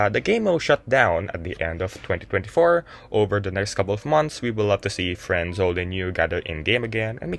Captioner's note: none